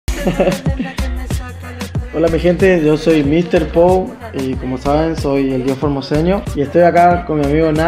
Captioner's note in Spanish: Risas